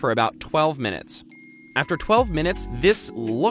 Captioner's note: dings